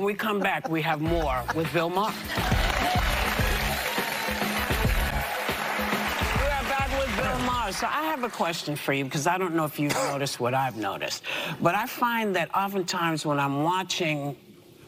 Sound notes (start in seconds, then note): 5.9 applause